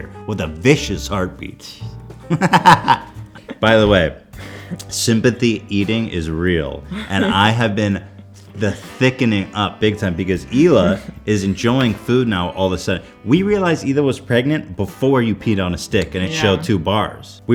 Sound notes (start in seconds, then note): 2.3 extreme fupa man laugh